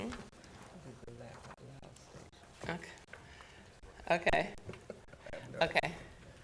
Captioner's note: board chatting quietly